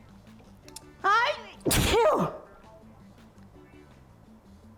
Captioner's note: sneezes